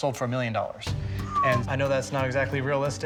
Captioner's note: whistles